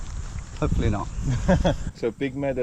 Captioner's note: laughing nervously